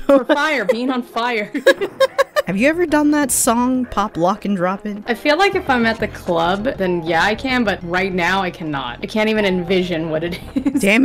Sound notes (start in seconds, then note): 1.5 laughing